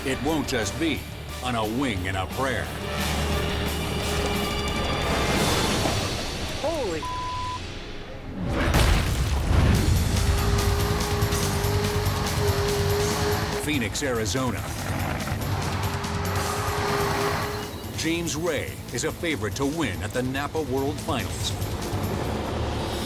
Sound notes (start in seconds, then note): 5.2 autogyro slams; 6.9 beep; 8.4 logo slams; 10.5 engine roars